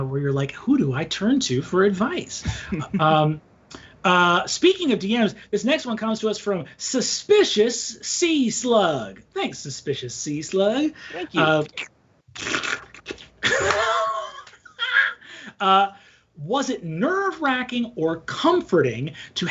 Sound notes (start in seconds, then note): 11.0 whimpers; 12.6 laughing